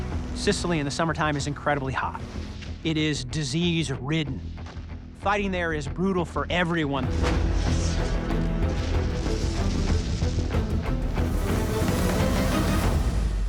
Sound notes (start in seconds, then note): 6.9 shellfire booming; 8.3 suspenseful music